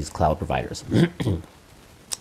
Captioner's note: clears throat